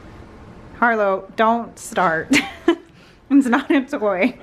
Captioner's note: laugs